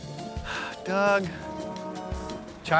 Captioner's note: sighs